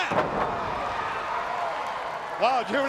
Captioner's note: crowd cheering